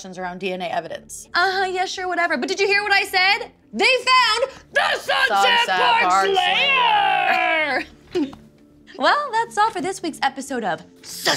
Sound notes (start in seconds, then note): 7.1 both laugh